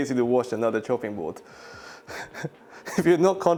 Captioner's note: chuckles